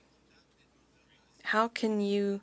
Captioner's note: speaking French